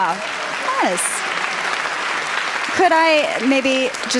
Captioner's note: applause